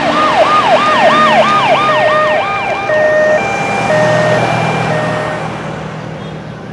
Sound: ambulance siren

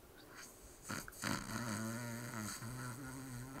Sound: snoring

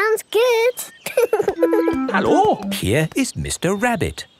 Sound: laughing

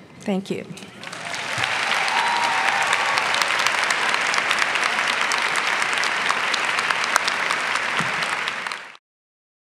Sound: clapping

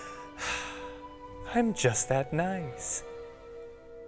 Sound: condescending sigh

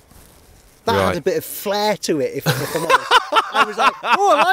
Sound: laughter

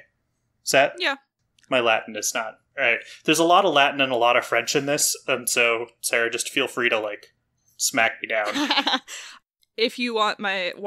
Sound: laughs

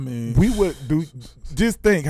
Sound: laughing

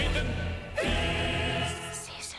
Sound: whispers

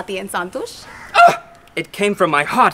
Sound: feminine shout

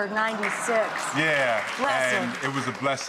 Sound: audience applause

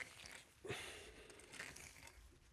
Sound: gasping

